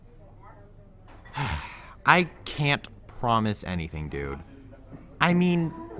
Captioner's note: sigh